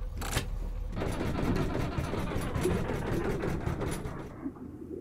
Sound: engine shuts off

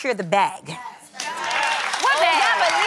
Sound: crowd cheers

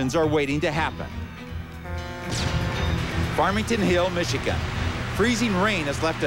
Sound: horn blares

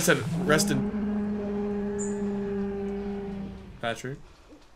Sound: Bigfoot Growls

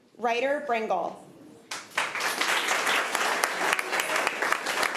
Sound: applause

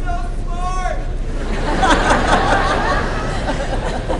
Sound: laughter

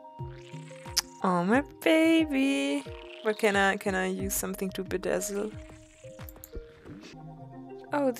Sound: clicks tongue

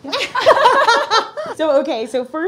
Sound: all laugh

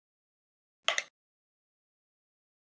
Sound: minute Clicks

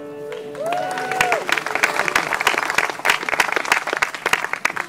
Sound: applause

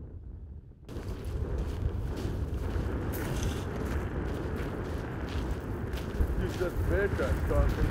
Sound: wind gusting

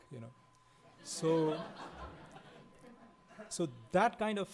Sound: laughing

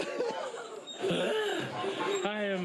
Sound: sighs

